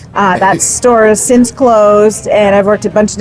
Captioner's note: chuckles